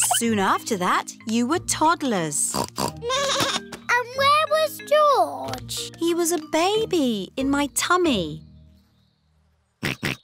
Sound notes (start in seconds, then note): 2.5 snorts; 3.0 bleats